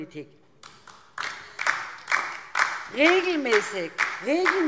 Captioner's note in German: Beifall DIE LINKE